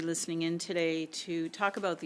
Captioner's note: speaking French